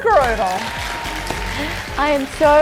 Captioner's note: applause